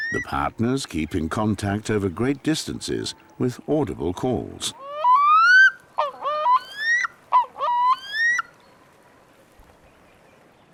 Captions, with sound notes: The partners keep in contact over great distances with audible calls. [calls loudly]